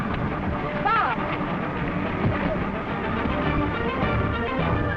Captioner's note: train chugging